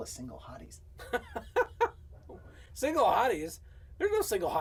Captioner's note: laughs